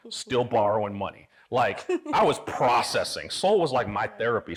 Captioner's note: laughing